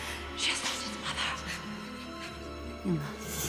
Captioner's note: gasps